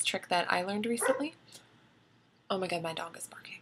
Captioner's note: dog bark